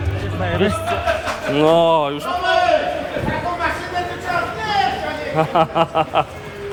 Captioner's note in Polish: Aplauz